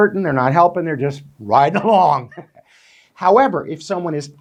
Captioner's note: chuckles